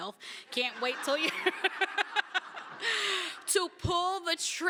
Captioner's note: laughter